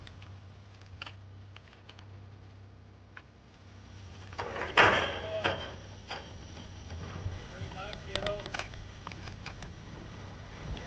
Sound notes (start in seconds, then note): 4.3 gate clanging